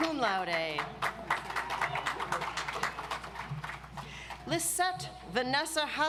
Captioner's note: audience applauds